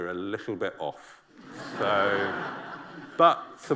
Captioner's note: laughter